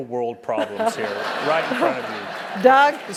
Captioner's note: laugh